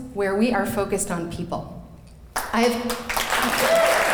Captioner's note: clapping